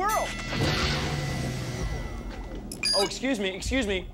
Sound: bell dings

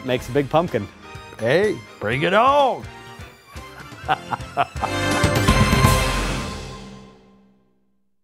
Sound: laughter

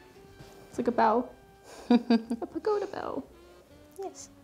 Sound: chuckling

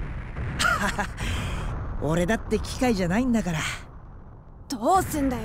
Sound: laugh

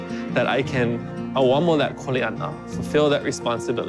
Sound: speaking a foreign language

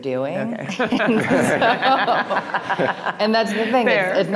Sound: people laughing

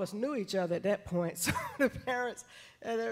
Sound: chuckles

